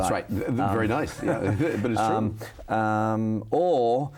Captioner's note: chuckles